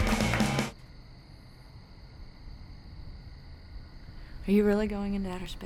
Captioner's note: crickets chirping